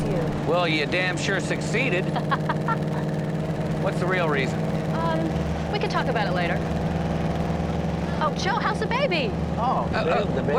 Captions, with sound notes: - Well, you damn sure succeeded. (Lisa laughing) What's the real reason? - Um, we could talk about it later. Oh, Joe, how's the baby?